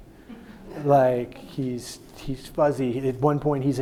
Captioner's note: audience laughing